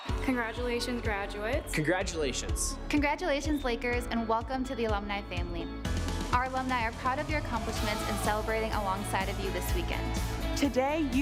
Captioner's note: cheers and applause